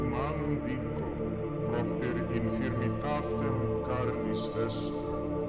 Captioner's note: speaking in foreign language